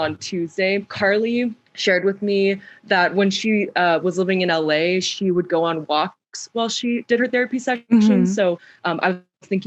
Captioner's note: mhmm